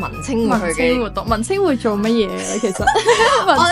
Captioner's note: laughs